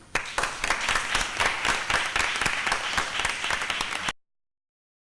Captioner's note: applausi